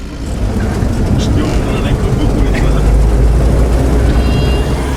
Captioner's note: vehicle engine revving